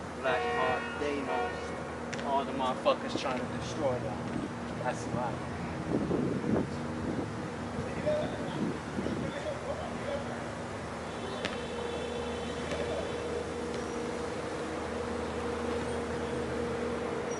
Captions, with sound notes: Black part, they knows, all the motha fuckers tryna destroy that, that's why. (wind howling) (people chattering)